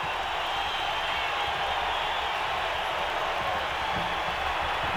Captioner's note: audience cheering